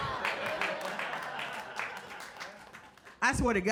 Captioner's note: audience cheers and applauds